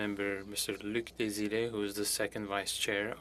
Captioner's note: speaking French